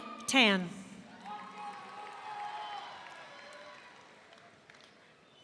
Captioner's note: audience cheering